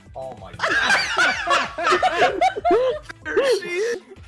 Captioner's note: laughter